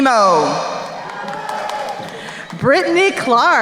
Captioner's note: crowd cheering